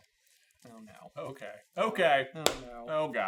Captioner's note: quietly